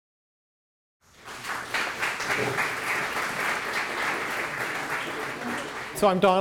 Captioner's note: applause